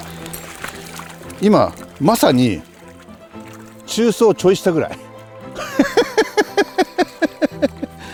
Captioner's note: laughs